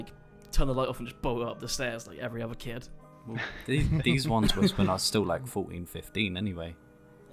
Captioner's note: laughter